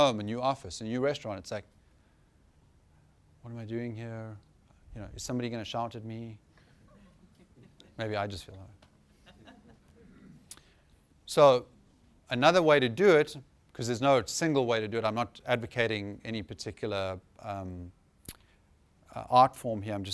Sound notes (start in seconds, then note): 9.0 laughter